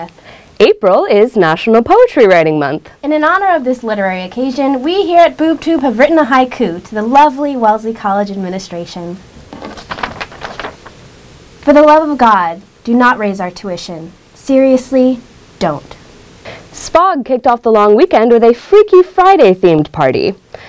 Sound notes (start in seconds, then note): 9.4 paper crinkles